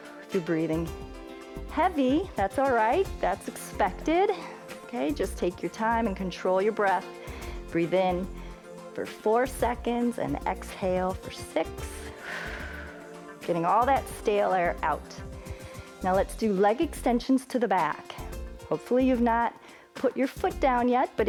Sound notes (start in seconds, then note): 12.0 exhales